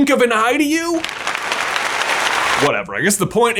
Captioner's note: people applauding